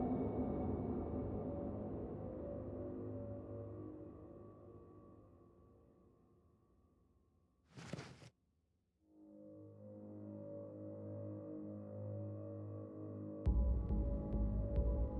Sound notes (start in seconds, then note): 7.7 clothes rustling; 9.2 soft ominous music